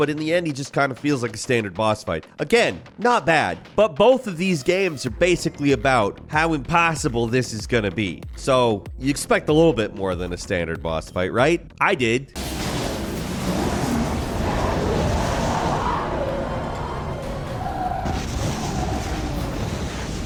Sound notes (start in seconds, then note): 12.4 monster roaring; 17.0 monster growling